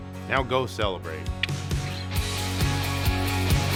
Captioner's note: clicks